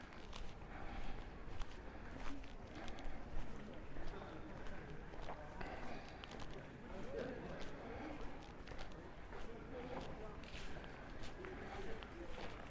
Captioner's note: background chatter